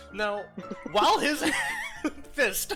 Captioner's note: struggling to speak